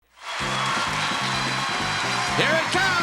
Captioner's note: audience applauding; lively music